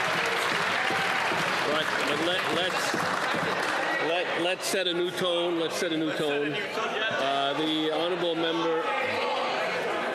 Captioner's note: some Applause